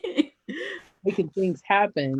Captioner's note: laughs